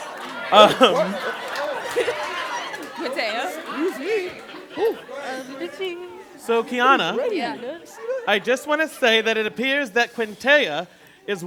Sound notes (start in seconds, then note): 1.0 laughter, chatter; 4.1 lively chatter